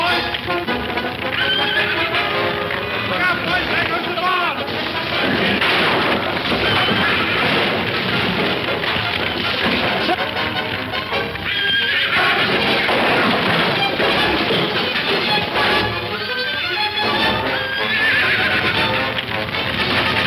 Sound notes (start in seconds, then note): 1.1 horse whinnies; 4.0 fire crackling; 4.0 objects crashing; 10.2 horse whinnying; 11.7 dramatic music; 11.7 fire crackling